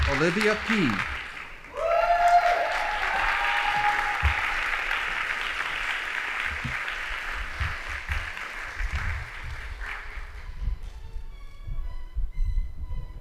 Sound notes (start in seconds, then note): 1.9 audience applauding; 10.4 band playing